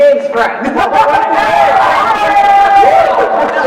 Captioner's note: crowd cheering